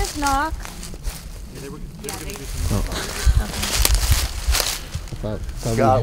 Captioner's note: foliage crackling